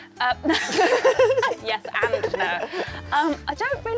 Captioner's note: laughing